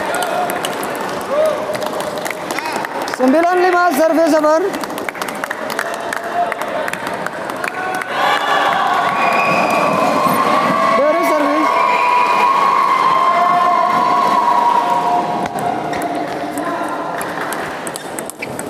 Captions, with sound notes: [Applause] 95 service center [Applause]